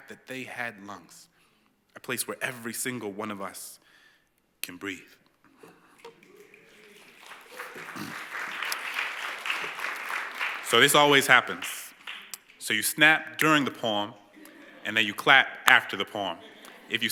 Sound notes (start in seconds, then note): 5.7 snapping; 6.0 applause